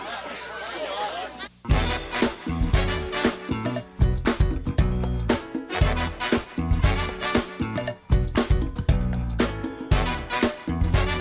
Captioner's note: crowd chatter